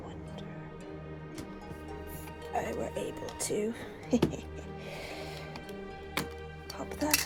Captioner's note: laughs awkwardly